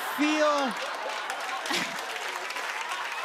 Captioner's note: laughter